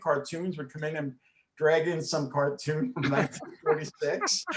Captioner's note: chuckles